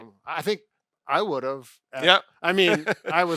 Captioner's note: chuckles